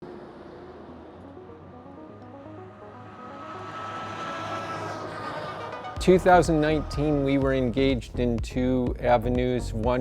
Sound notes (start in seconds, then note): 1.4 upbeat music; 1.7 vehicles zooming